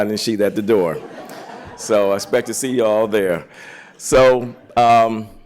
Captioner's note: laughter